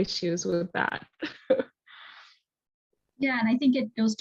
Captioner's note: chuckling